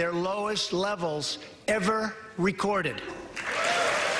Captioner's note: applause